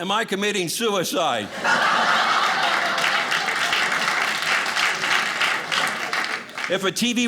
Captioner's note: audience laughing